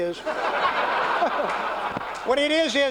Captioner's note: laughter